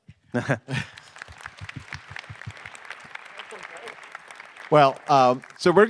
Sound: attendees clapping

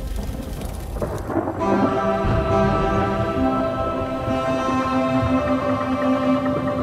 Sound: thundering

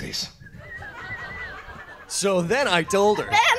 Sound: birds chirping

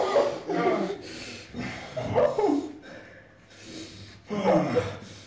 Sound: grunts; pants

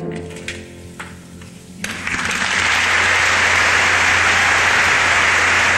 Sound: audience applauds

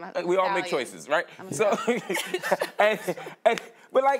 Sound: laughter

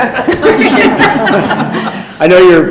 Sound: laughing and talking

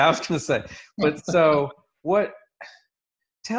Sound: laughs

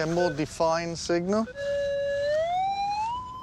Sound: beeping

